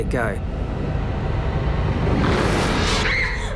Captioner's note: whooshing; screams